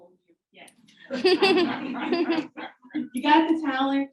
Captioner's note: audience laughing